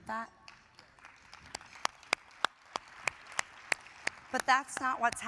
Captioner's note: audience applauding